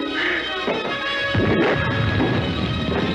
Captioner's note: chemicals exploding; scuffling